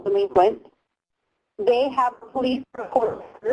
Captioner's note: distorted audio